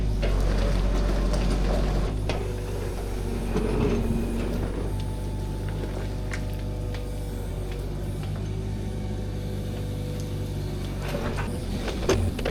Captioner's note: machinery whirring